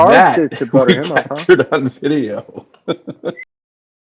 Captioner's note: laughter